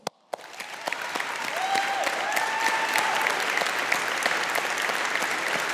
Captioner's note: audience applauding